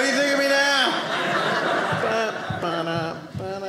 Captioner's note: audience laughing